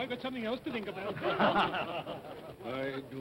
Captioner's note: all chuckle